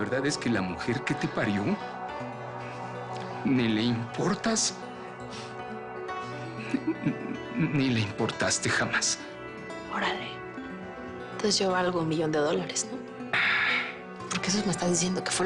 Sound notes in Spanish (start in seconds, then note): 6.5 Sollozos; 13.3 Lázaro exhala